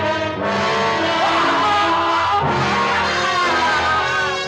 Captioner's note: screaming loudly